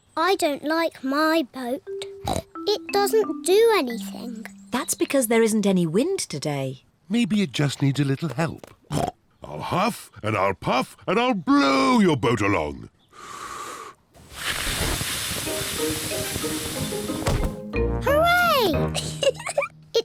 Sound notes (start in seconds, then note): 9.0 snorts; 14.1 inhales, blows; 18.9 giggles